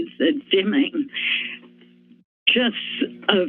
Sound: inhales

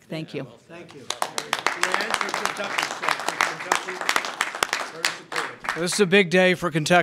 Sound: applause

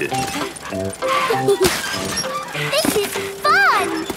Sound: mummy and daddy pig panting; peppa and george laughing

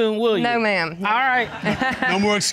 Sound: chuckles

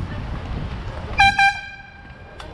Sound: airhorn

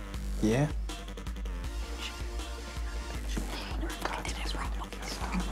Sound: intense whispering

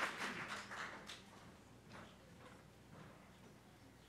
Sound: applause

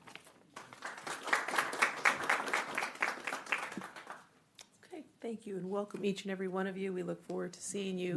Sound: clapping

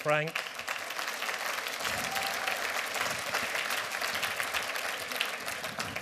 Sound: applause

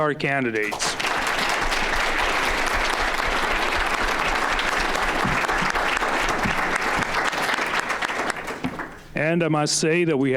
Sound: audience applauding

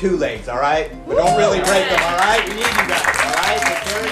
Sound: cheers

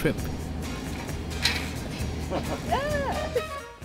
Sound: machine whirring; both chuckling

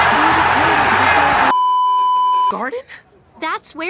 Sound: beeeeeep

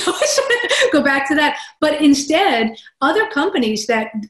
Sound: laugh

